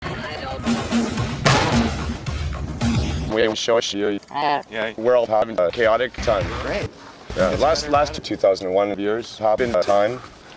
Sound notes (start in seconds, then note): 1.4 gunshot